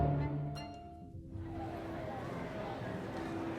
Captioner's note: people talking in background